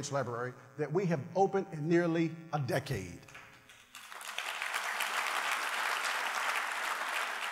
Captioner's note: applause